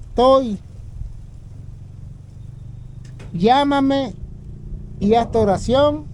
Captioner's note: speaking in foreign language